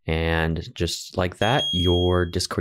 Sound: electronic beeping

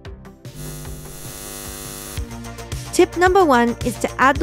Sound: static buzzing

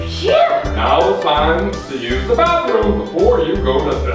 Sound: voiceover

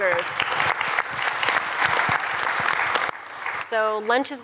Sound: applause

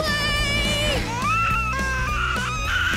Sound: baby crying

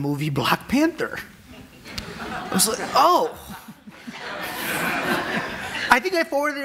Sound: audience laughing

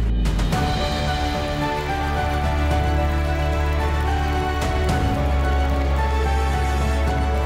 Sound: uplifting music; crowd applauding

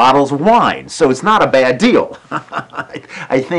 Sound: laughing

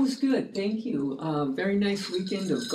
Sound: ice rattling in glass

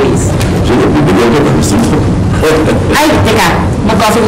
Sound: chuckles

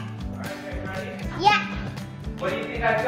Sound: babbling

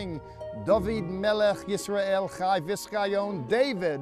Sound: speaking in Hebrew

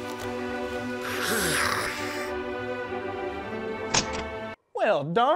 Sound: blowing into hose

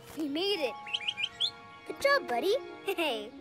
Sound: chirps

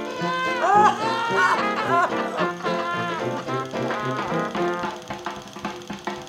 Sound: Rodney and Franky laugh uproariously

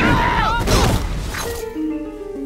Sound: screaming; grunting

